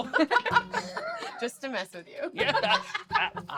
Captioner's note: laughs; laughter